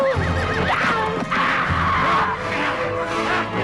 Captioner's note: horse neighs; mother shouting